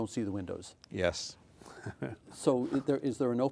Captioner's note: laughing